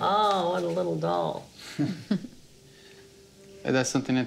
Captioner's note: laughing